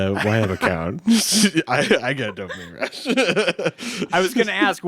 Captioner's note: laughs